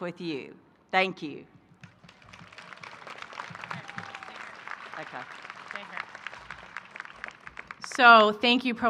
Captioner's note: applause